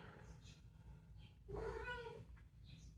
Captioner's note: meow